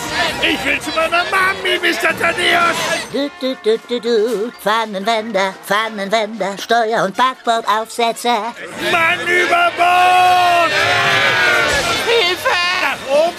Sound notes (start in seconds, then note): 2.9 <i> humming</i>